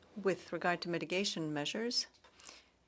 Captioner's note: speaking French